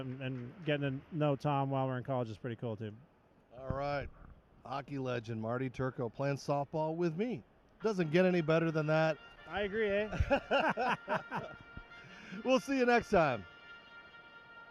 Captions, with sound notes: And getting to know Tom while we're in college is pretty cool, too. All right. Hockey legend Marty Turco playing softball with me. Doesn't get any better than that. I agree. [Both laugh] We'll see you next time.